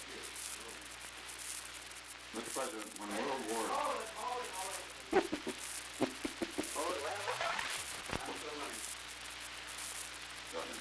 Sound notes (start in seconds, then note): 2.2 production chatter; 5.9 chuckles